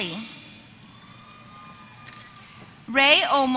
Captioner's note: applause